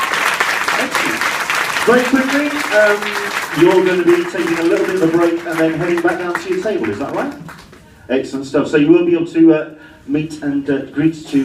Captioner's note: cheering and clapping